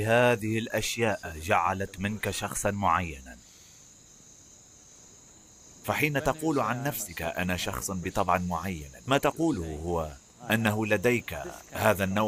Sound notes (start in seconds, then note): 5.9 laughs